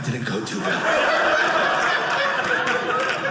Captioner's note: audience laughing